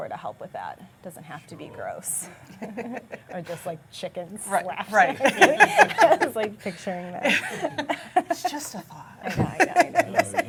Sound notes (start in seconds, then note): 4.9 laughing